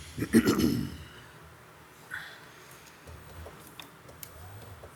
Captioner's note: council member clears throat